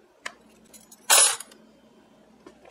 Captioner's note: clank